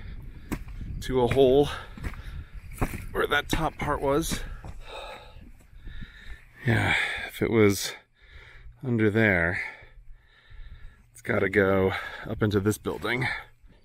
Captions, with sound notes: to a hole, where that top part was. [with a sigh] Yeah. If it was under there. It’s got to go up into this building.